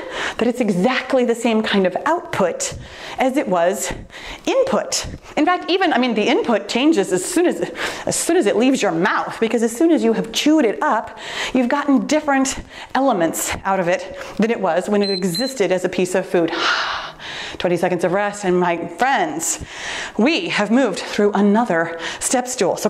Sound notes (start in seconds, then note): 15.0 timer beeps